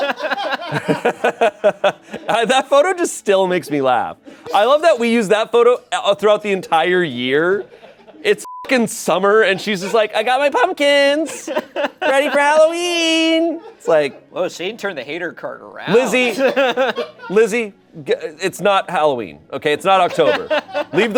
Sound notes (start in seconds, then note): 0.0 group laughing; 8.4 beep